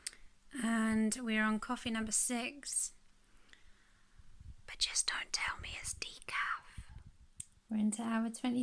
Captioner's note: whispers